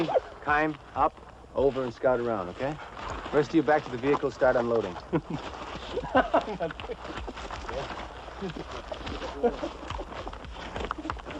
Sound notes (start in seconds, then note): 5.0 men laughing